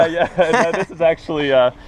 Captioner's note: both laugh